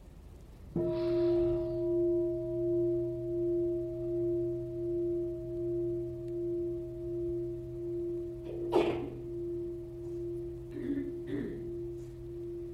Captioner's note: bell sounds